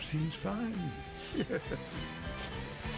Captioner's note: chuckles